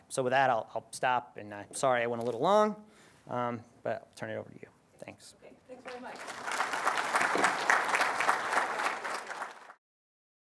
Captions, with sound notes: So with that, I'll stop and I'm sorry I went a little long. But I'll turn it over to you. Thanks. [APPLAUSE]